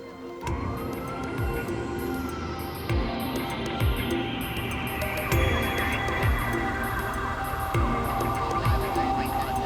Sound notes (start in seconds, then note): 1.2 sirens wailing